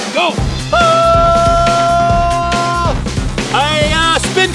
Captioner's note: yelling